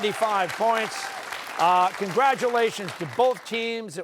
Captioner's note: cheers and applause